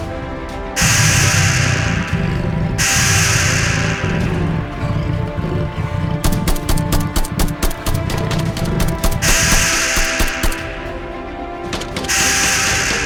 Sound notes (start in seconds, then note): 0.8 ground rumbling; 0.8 beast whirring; 6.3 gun blasting; 9.2 beast whirring